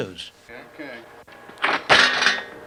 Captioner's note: bicycle clattering